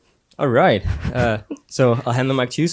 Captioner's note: laughs